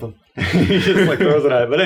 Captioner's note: laughs